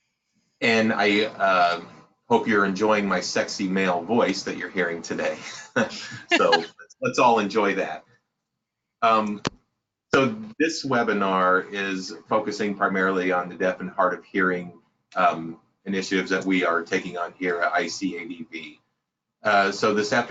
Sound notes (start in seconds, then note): 5.3 interpreter laughs